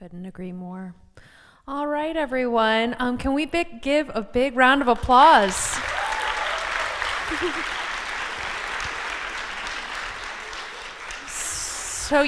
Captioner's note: applause